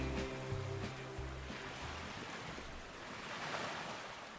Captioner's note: waves lapping